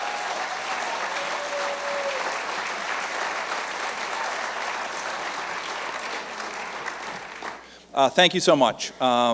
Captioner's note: cheers and applause